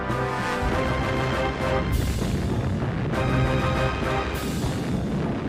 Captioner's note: explosion blasting